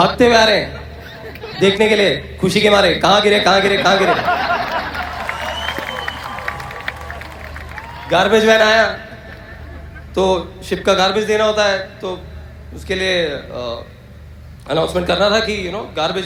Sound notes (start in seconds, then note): 3.6 audience Laughter, Clapping and whistling